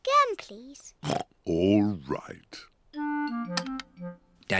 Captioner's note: oinks